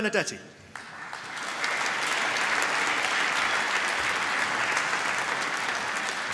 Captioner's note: applause